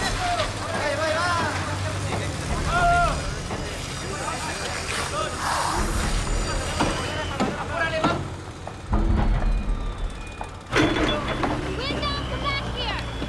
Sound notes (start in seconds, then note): 4.0 hammers hammering; 4.0 saws buzzing